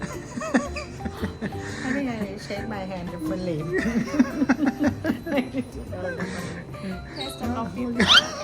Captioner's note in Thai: เสียงหัวเราะ